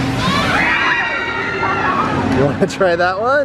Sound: screaming

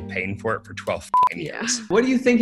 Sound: beeps

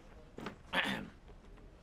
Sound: ABED clears his throat

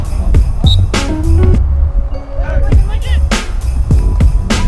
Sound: whistle blows

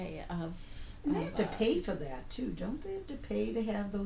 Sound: voiceover

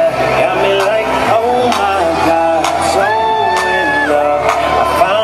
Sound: crowd cheers

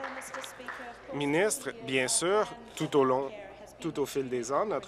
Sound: applause

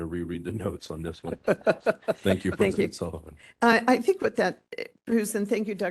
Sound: laughing

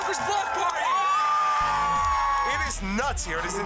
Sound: cheers and applause

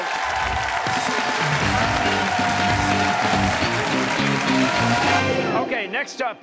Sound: cheers and applause

